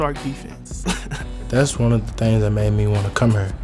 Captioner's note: laughter